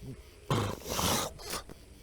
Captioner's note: snores